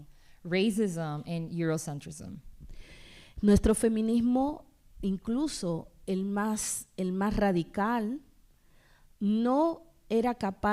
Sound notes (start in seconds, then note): 0.0 speaking spanish; 3.4 speaking spanish